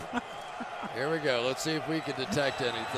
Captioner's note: laughs